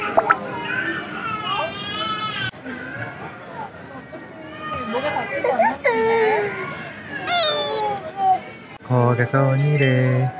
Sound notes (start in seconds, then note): 7.2 crying